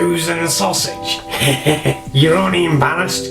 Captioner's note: laughs